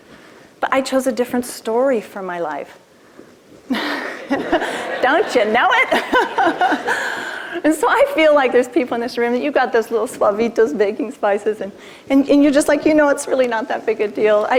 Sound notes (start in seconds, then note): 3.7 laughter